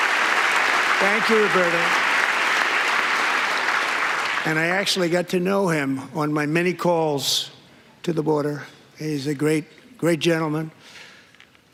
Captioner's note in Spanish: aplausos